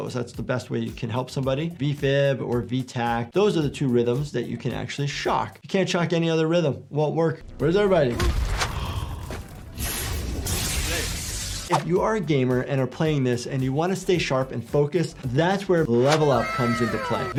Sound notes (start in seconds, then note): 8.2 body thudding; 9.5 electricity zapping